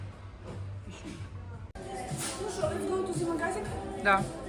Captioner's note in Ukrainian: прочищення горла